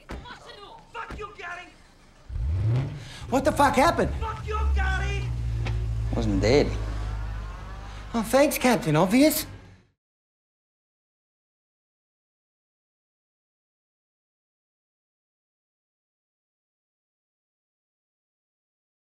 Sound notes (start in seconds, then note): 0.4 speaking russian; 1.8 engine revving